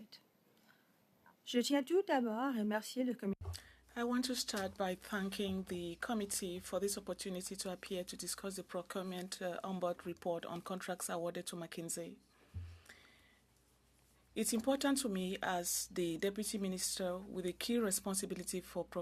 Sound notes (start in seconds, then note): 5.4 speaking French